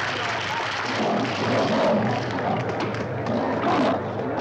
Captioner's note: lions snarling